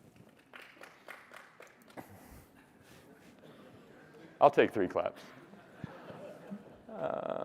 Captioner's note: applause